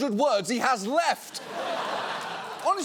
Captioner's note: audience laughs